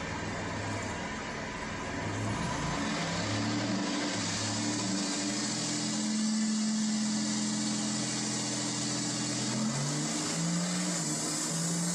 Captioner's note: engine & wheel spinning noise